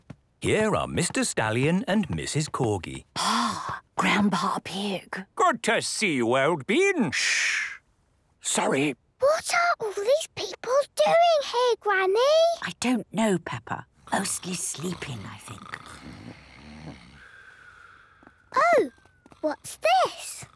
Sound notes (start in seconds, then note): 7.8 whispering; 9.2 quietly; 16.3 snoring